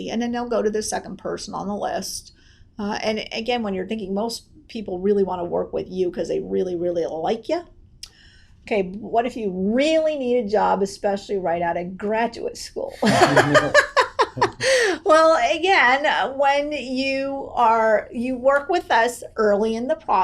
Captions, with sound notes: And then they'll go to their second person on the list. And again when you're thinking, most people really wanna work with you 'cause they really, really like you. "Okay, but what if you really need a job, "especially right out of graduate school?" (laughs) Well, again, when you work with us early in the process